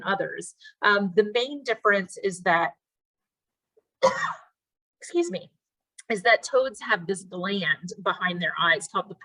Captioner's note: cough